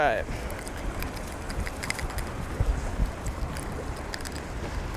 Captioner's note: rattling hook